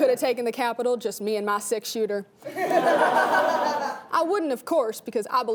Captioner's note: laughing